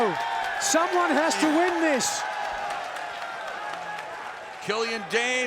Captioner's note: fans cheering